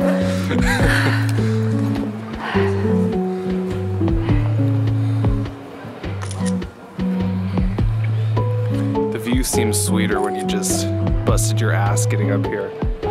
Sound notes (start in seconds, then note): 0.0 catches her breath; 6.2 someone snaps a photo